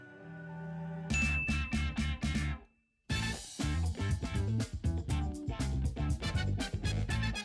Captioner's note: bell chimes; upbeat music